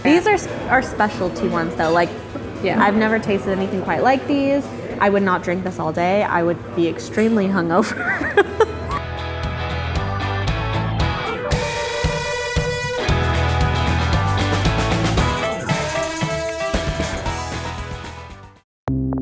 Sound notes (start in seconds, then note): 7.8 laughing; 9.0 upbeat music